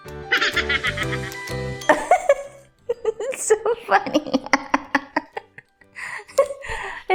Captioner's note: laughing so hard